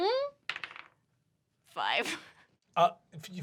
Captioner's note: laughs